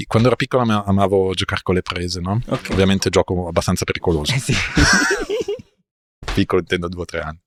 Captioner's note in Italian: risate